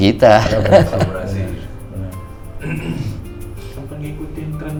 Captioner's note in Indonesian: tertawa